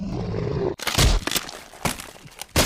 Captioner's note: crack